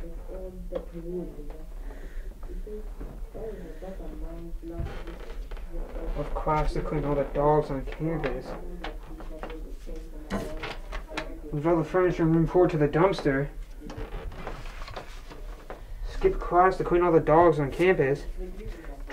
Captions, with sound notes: (breathes sharply) "Skip class and clean all the dogs in campus." "Move all the furniture, room four to the dumpster." "Skip class to clean all the dogs on campus."